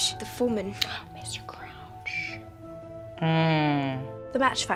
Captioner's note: gasps